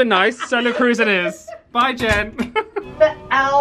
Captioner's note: laughs